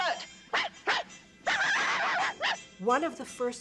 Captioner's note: barking